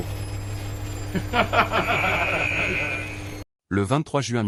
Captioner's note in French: rire